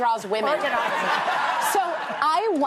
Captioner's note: laughter